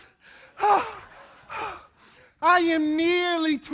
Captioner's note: audience laughing